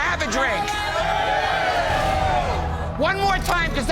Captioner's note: crowd cheering